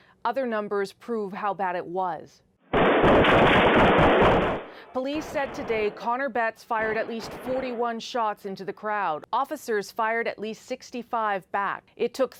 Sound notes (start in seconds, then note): 6.7 gunshots